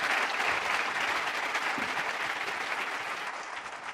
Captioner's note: applause